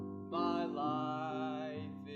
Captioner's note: none